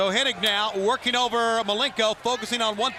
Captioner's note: crowd chatter